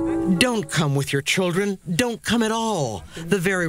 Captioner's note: speaking spanish